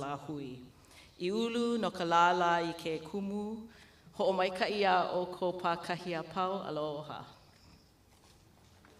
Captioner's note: speaking in Hawaiian language